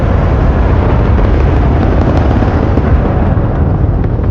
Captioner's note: rocket fire roaring